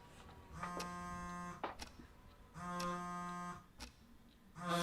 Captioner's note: phone Vibrates